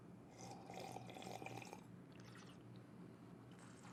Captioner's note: Darren slurping